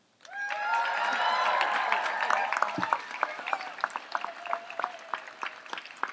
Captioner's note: audience applauds and cheers